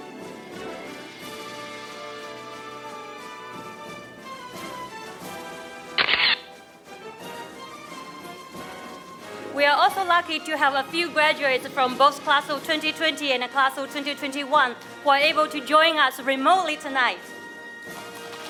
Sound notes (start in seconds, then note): 6.0 camera shatters; 18.3 audience applauding